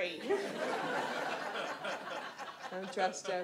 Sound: audience laughs

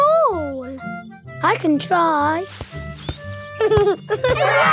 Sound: leaves rustle; giggling

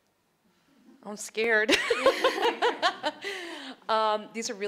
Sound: laughs

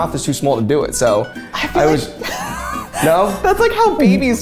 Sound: laughing

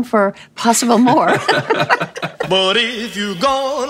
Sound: laughing

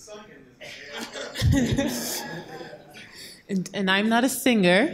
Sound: laughing

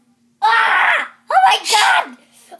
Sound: Luigi screams once more

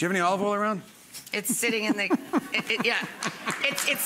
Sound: Marc laughing

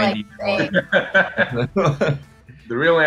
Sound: laughing

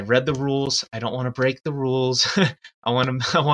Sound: laughs

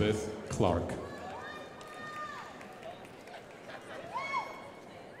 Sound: crowd applauding

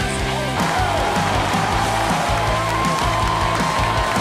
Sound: people cheering

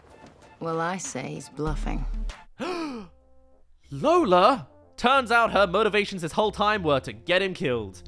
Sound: gasp

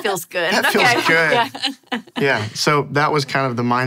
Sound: group laughs

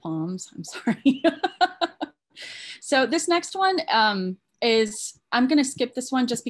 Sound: laughs

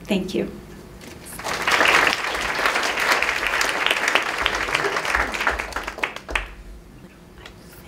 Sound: clapping

